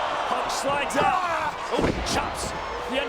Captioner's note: Undertaker yells